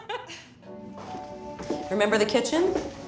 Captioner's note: woman laughs